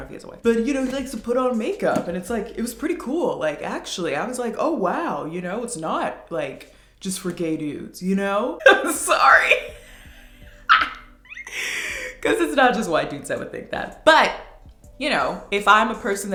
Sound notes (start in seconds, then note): 10.6 laughs